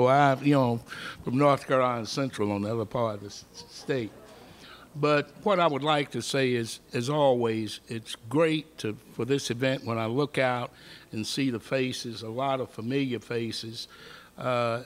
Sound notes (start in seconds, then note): none